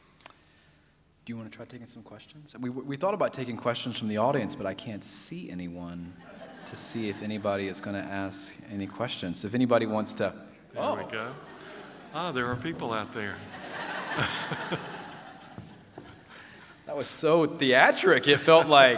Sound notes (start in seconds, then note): 6.2 laughter; 13.4 laugher